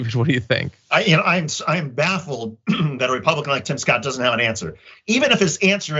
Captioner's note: cough